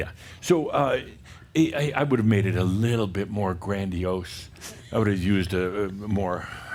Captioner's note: giggling